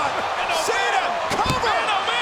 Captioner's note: body thudding; hands thudding